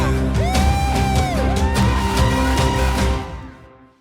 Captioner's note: cheers